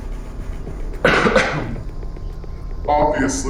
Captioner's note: Wanda X coughs